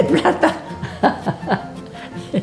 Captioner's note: laughter